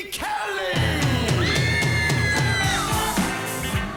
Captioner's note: woman screaming